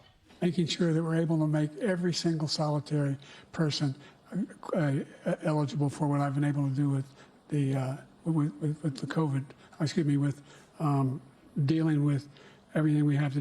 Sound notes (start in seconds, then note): none